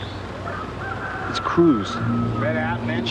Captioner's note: none